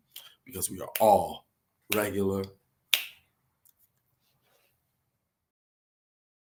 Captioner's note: fingers snapping